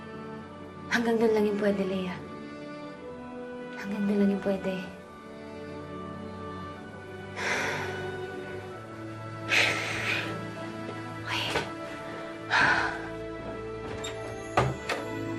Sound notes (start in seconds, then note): 7.2 sighs; 9.4 exhales deeply; 12.3 sighs; 13.8 door clicks open